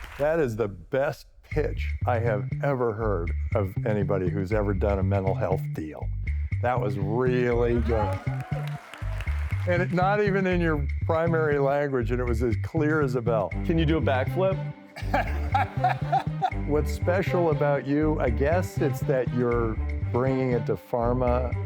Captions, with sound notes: That is the best pitch I have ever heard of anybody who's ever done a mental health deal. That was really good. And not even in your primary language and it was as clear as a bell. - Can you do a back flip? [Laughter] - What's special about you, I guess it's that you're bringing it to pharma